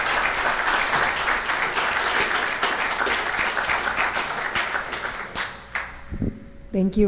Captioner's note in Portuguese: Aplausos